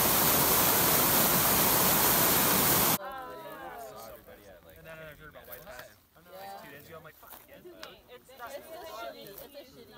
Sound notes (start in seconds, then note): 3.0 group talking